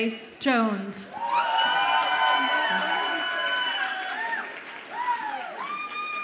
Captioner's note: audience applauds and cheers